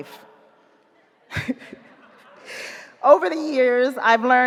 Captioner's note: chuckles